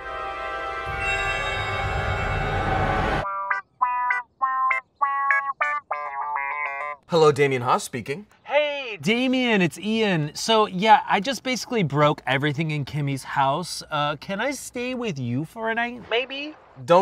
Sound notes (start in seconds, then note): 0.1 ominous music plays; 3.2 playful ringtone plays